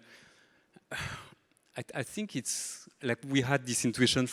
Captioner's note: deeply sighs